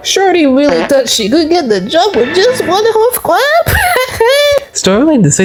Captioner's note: laughs